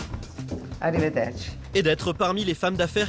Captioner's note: in Italian